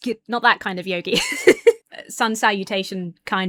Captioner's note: laughs